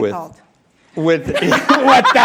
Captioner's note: laughter